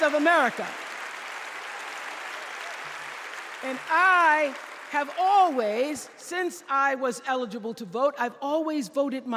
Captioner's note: applause